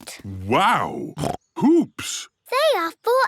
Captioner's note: snorts